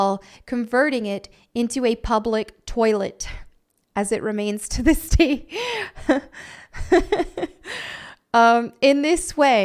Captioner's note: laughter